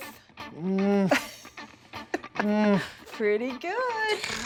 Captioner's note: laughing